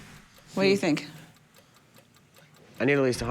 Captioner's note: clock ticking